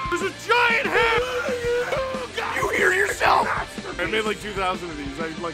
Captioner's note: Harry potter screaming; screaming